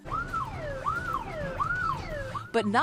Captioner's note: siren wailing